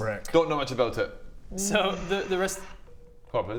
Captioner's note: mystery phone noises